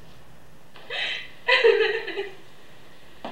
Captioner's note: still sobbing